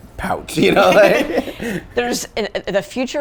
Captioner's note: both chuckle